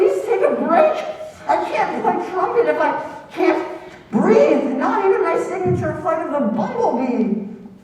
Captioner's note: gasp